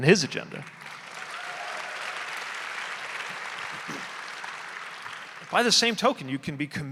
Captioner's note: audience applauding; audience cheering